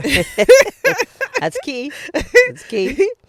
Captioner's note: both laughing